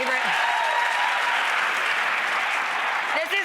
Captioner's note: audience claps